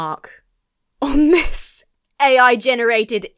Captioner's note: laughs